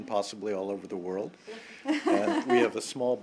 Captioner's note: laughter